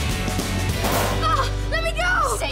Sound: thudding

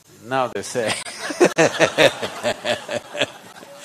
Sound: child among participants laughs; laughter

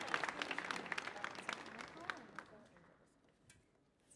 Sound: group whispering

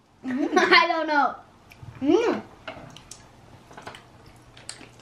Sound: laughs

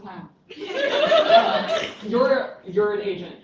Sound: laughter

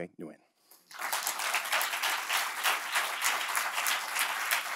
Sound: audience applauding

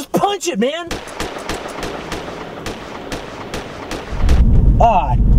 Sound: multiple Gun Shots A 3rd Time

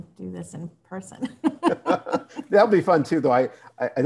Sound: both laugh

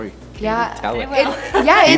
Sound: laughter

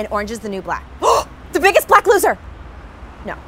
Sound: gasps

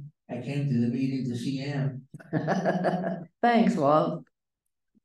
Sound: chuckle

